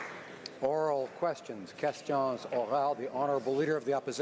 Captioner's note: some Applause